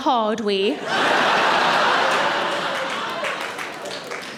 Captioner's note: audience laughing